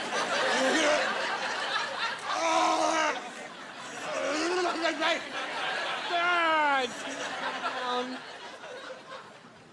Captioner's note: groaning